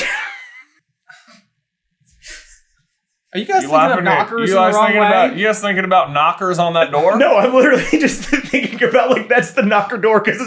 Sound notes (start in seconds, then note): 0.0 team laughter; 7.0 cracking up